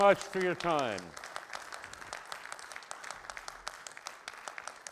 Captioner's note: audience applauds